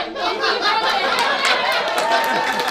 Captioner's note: laughing; applause